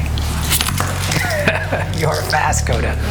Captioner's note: man laughs